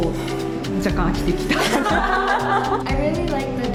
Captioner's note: laughs